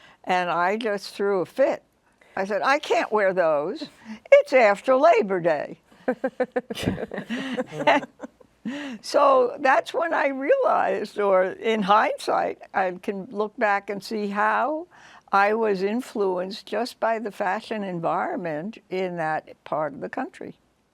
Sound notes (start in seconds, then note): 6.0 laughing